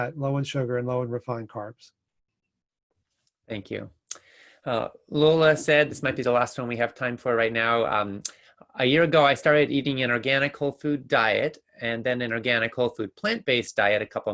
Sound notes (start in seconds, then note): none